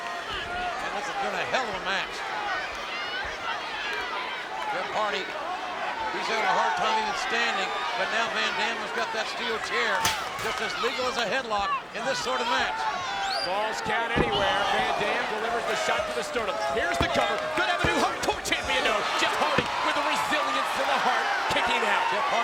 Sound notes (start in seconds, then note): 2.7 crowd chattering; 10.0 steel rattling